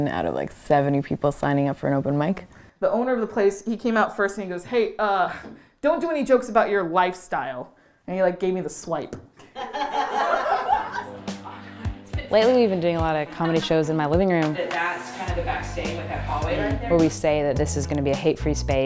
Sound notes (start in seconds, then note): 9.4 laughter